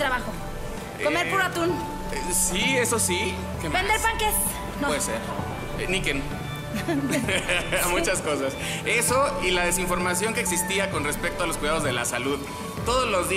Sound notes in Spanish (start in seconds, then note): 6.7 Risas